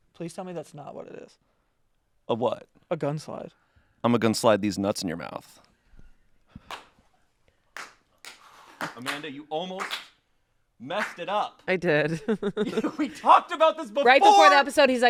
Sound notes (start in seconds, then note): 6.7 staff clapping; 12.3 chuckles